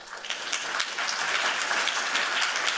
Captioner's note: applause